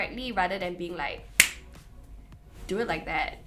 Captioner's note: snaps finger